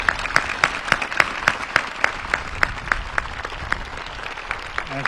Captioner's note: applause